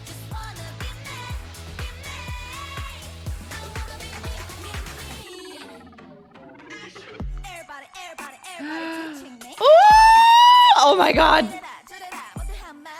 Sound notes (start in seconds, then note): 8.6 gasps